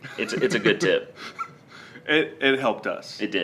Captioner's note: chuckles